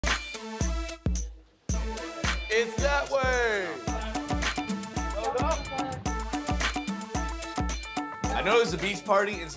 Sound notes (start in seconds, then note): 0.0 upbeat hiphop music; 4.0 overlapping chatter